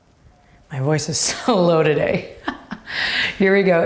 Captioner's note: laughs